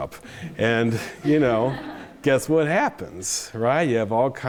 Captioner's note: chuckles